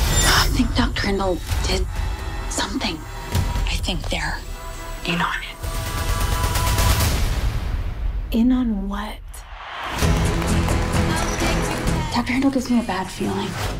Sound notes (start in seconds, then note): 9.8 applause